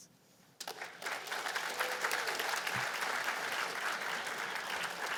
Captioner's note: applause